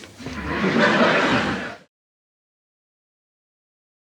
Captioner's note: audience laughs